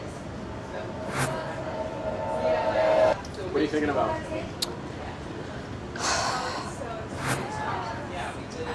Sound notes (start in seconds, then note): 0.5 dramatic music; 6.1 sighs